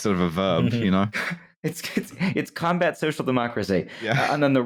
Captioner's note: laughing